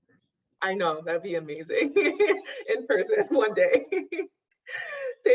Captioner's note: laughs